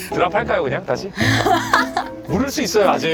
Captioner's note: laughs broadly